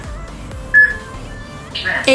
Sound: peep

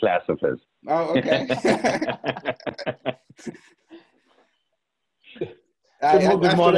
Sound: laughter

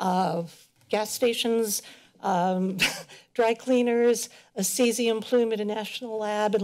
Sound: chuckles

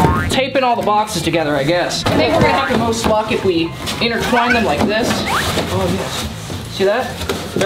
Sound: none

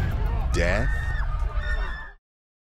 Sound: screaming

